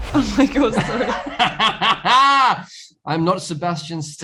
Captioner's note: laughter